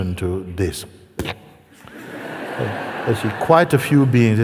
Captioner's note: risas